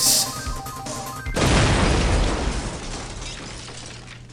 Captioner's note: crash!